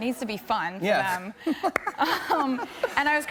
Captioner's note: laughs